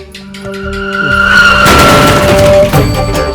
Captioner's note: sound of a bike crashing